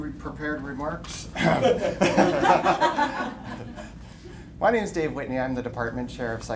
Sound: laughter

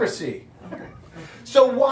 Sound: audience laughing

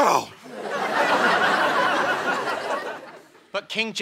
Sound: audience laughter

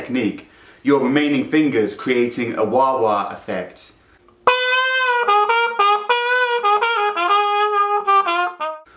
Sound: trumpet effect

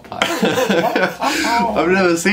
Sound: laughing

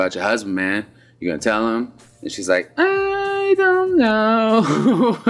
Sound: laughter

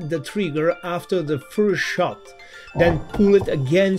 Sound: gunshot thuds

